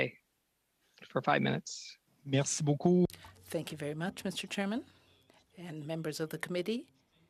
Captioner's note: speaking French